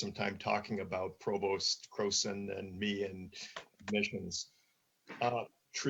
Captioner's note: murmurs